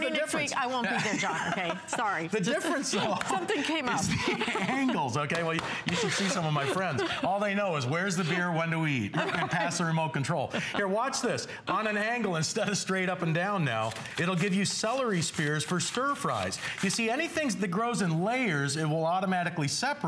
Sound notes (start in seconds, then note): 2.3 laughter; 3.8 laughter